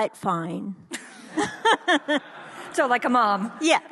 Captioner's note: audience laughs